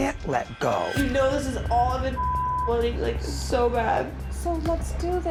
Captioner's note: beep